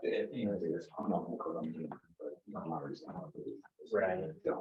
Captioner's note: members chattering